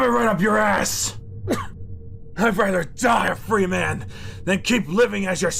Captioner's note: coughing